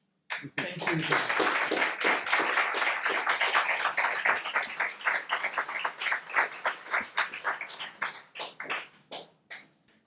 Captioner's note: audience clapping